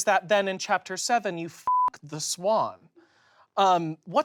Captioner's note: beep